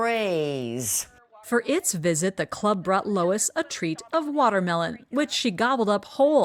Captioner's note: voice-over